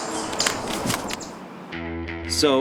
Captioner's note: camera clicks